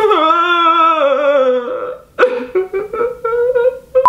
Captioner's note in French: pleure